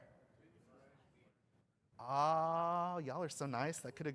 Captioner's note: off microphone